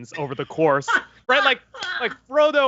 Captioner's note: laughs